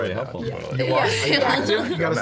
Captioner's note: laughing